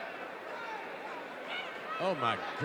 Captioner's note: audience cheering